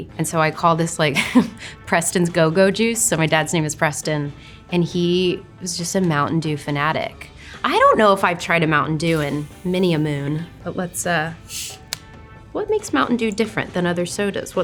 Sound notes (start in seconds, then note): 1.4 chuckles; 11.4 drink fizzles